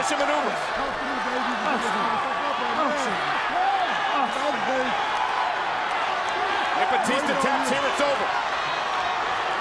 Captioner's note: applause